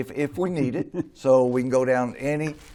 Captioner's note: laughs